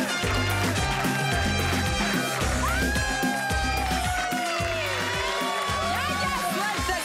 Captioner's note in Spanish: Gritos y exclamaciones